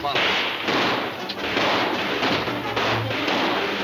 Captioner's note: guns firing